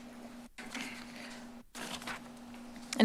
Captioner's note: rustles